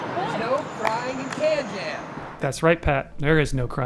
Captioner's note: pat